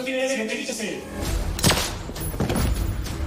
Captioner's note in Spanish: Disparo